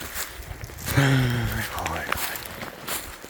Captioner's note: sigh